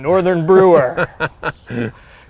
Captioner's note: laughs